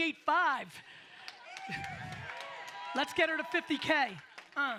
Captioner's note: audience applauds